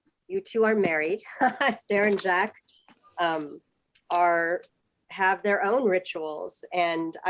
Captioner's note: laughter